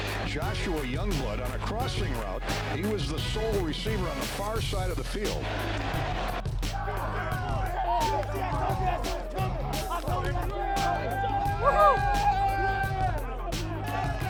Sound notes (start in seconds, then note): 6.9 team cheering